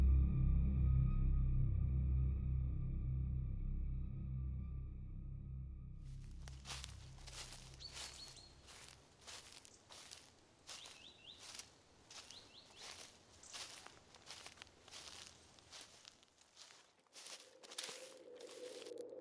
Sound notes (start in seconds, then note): 13.1 birds chirping